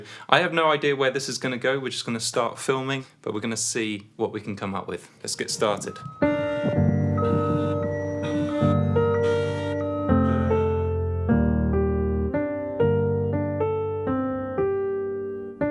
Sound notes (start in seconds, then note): 5.8 car alarm blaring; 6.5 gentle keyboard music